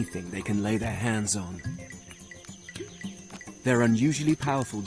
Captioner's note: upbeat music; leaves rustling